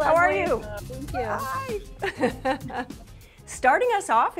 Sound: laughs

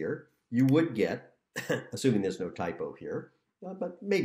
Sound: laughter

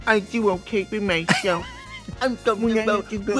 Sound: in a baby voice

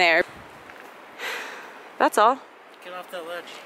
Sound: sighs

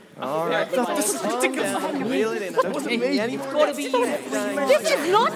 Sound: chatter amongst everyone

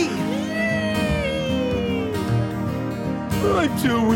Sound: אולי צווח בשמחה

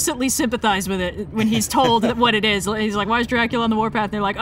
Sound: laughs

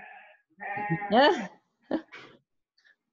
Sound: laughs

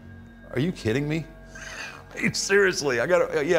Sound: laughs

